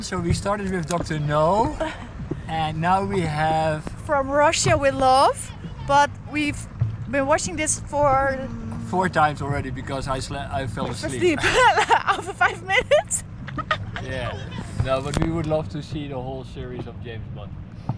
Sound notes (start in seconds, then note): 11.1 laughs